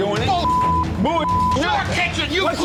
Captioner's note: beep